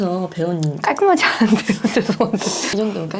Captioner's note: hehe... Seup